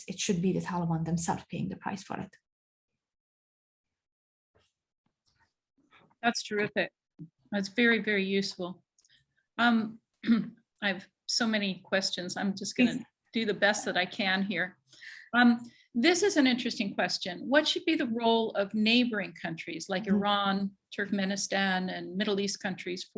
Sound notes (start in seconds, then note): 10.2 clears throat